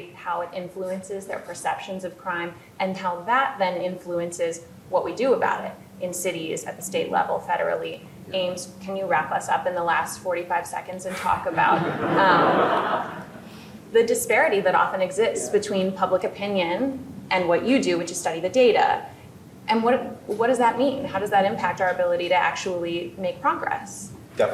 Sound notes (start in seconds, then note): 11.2 audience laughing